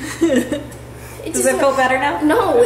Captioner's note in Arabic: ضحكات خافتة من الكريستال